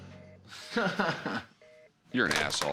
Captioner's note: chuckles